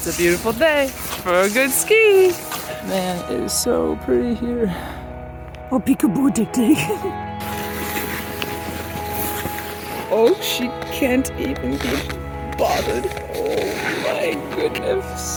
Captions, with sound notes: It's a beautiful day for a good ski. Man, it is so pretty here. Oh, peek a boo, Dig Dig. [snow crunching] Oh, she can't even be bothered. Oh my goodness.